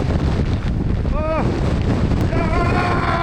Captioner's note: moaning continues